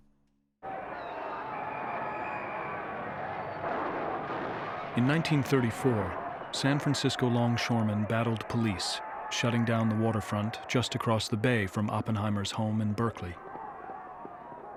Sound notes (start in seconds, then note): 0.7 people shouting, whistle blowing; 3.2 explosions popping